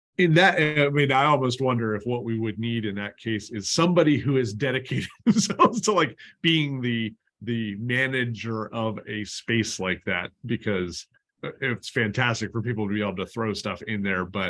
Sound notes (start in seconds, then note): 4.8 laughter